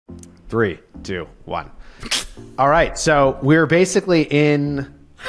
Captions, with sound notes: - 3, 2, 1. [SNICKERS] - All right, so we're basically in--